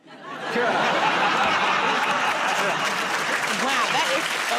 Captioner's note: laughter